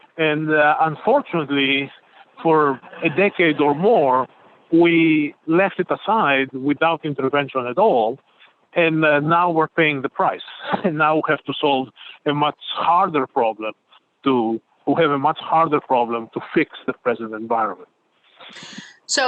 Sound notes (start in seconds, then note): 10.5 chuckling